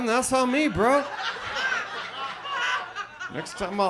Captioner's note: audience laughs